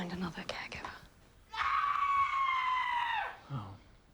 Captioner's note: Jane screaming